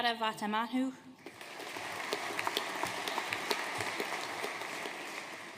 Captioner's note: audience applauding